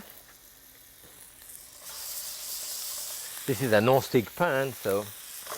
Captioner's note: sizzling